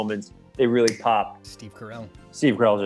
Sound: snaps fingers

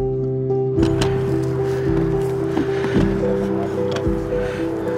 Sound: equipment rattling

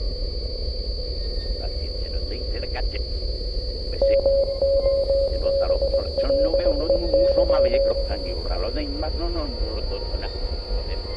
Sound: radio chatter and tense music

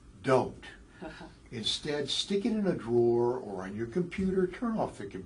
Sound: laugh

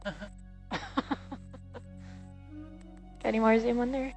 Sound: woman chuckles

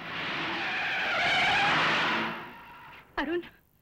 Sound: brakes squeal

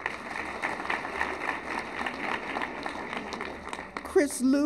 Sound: applause

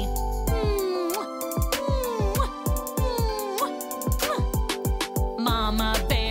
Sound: mmm smooch! mmm smooch!

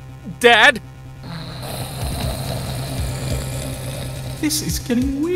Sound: snores

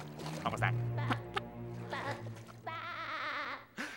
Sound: SpongeBob laughing

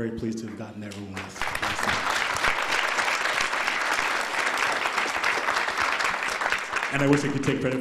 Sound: applause

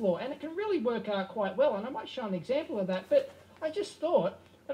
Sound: audio from EEVblog playing on TV

